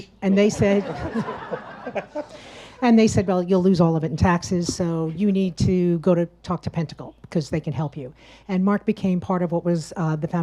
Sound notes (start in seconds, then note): 0.6 audience laughs; 0.7 laughs